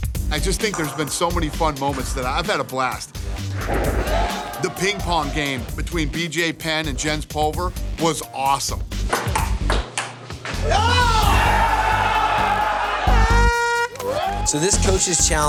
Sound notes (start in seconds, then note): 8.7 cheers and applause; 11.3 air horn blows